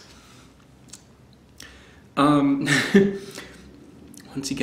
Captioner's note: laughs